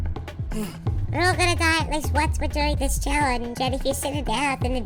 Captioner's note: sigh